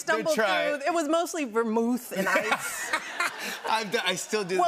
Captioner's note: laughter